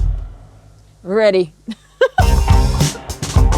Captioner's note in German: lacht; Fröhliche Musik